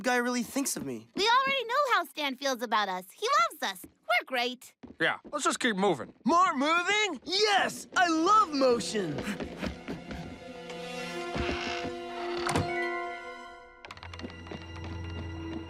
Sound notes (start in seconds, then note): 9.2 laughing; 10.9 both laughing